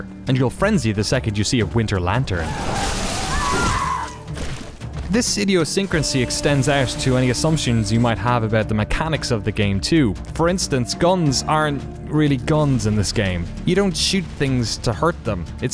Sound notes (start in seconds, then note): 2.3 character screaming